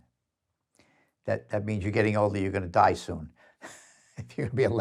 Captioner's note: sighs